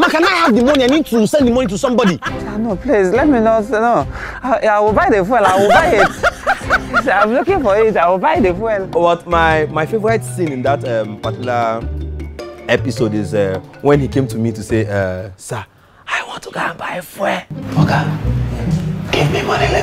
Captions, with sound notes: but my favourite scene in that episode is... when Mark came to me saying... (Whispering) "Sir, I want to go and buy fuel"